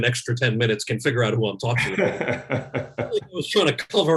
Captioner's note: laughs